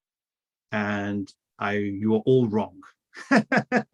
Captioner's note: laughs